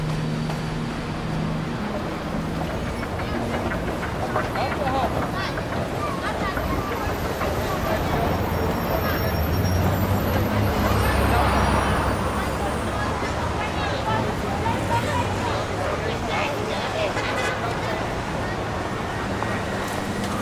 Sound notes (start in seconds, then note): 7.0 car engines rumbling; 16.9 car horns honking